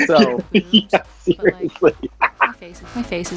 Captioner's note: laughs